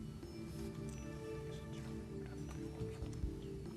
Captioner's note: whispering